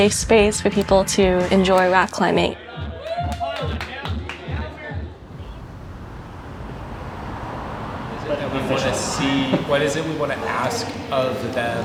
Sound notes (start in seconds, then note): 2.7 climbers cheer and applaud; 5.0 traffic whooshes